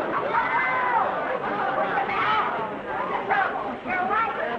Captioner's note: Lucy screaming